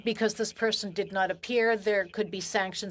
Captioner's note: speaking French